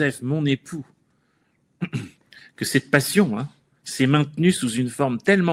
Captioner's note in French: raclement de gorge